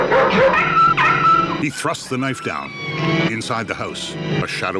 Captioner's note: whining & whimpering; creaking